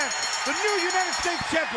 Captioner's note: bell ringing